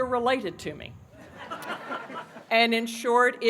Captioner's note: laughter